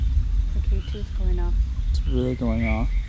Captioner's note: car